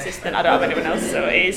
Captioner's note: class laughing